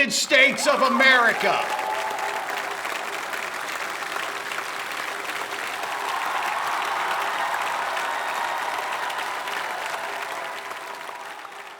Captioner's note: cheers, applause